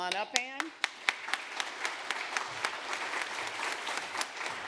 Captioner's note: applause